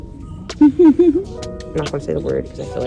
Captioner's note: laughs